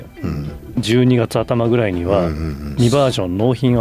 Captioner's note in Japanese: 咳払い